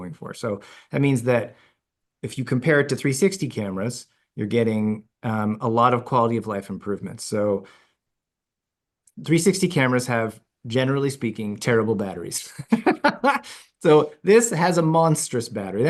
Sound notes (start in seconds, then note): 12.7 laughs